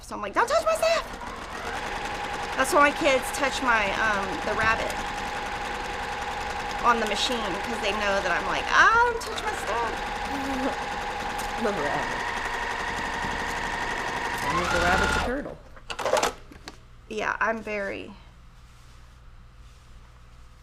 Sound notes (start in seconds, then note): 10.1 sewing machine roaring